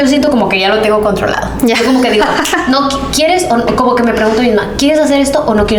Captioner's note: laughs